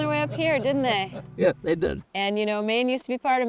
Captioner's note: chuckling